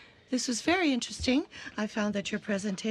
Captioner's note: speaking french